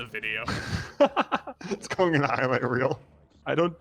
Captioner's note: laughs